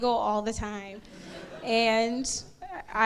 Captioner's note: crowd laughs